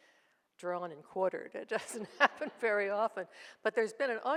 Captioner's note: laughs